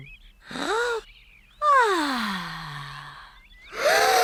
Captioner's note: breathes deeply; all breathe deeply